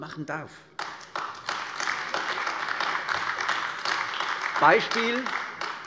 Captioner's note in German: Beifall AfD